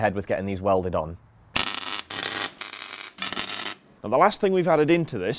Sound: welding

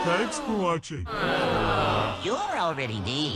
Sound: crowd Booing

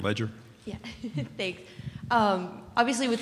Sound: chuckles

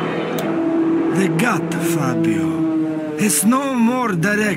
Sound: plane pulls out of dive

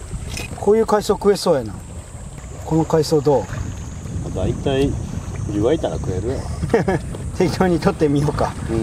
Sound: haha

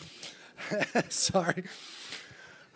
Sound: laughs

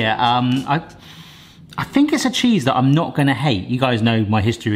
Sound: sniffs

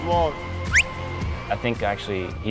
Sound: whistle

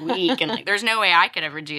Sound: laughs

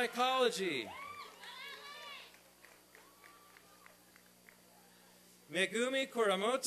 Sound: applause and cheering

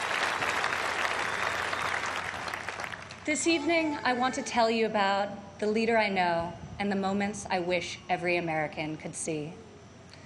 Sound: applause

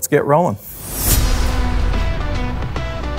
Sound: harsh whooshing sound; upbeat pop music

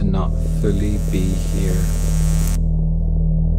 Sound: electricity fizzes

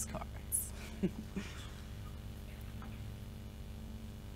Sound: laughs

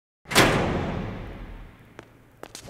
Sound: cell door slams

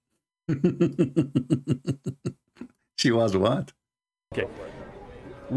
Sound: Ketawa

